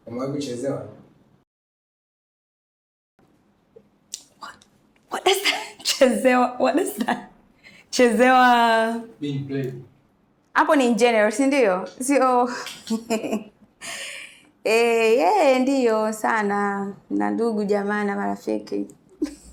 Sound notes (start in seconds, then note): 6.7 chuckles; 12.6 laughs